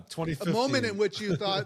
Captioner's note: laugh